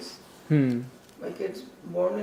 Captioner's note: hmm